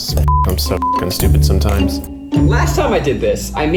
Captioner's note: beep